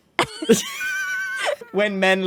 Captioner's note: both laugh